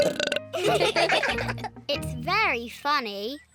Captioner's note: burps; all laugh